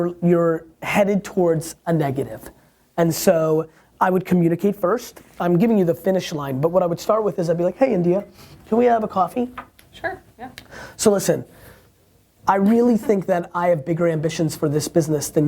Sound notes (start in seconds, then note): 12.9 laughs